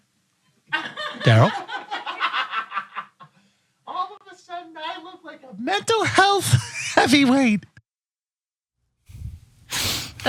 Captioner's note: laugh